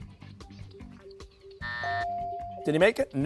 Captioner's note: buzzer